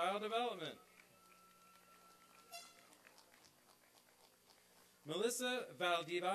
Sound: applause and cheering

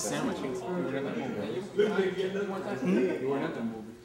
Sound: chattering

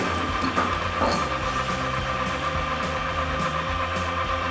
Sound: crane hoist rasping

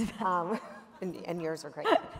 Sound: laughter

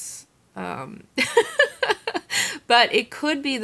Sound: laughs

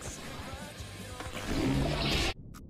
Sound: prmmmpfffffffsshhhhhh

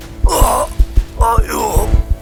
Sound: throbs in pain

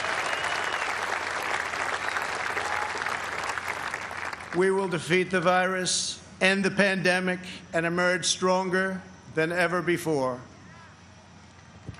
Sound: applause

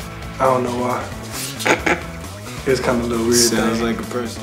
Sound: laughs

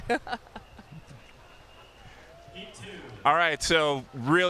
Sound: laughs

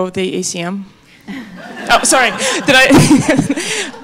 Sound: audience laughing

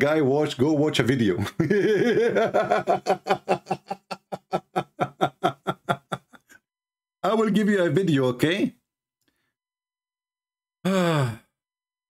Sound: Ketawa

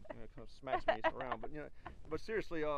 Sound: laughs

